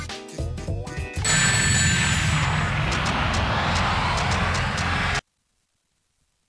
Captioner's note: bbbbbooommmm!!